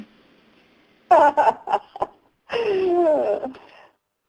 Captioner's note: laughs